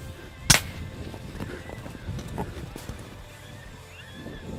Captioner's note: gunshot